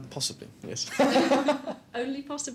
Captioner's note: both laughing